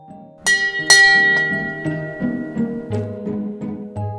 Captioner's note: ship bell rings twice